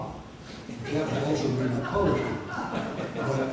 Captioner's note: audience laughter